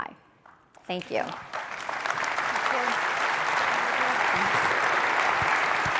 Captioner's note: applause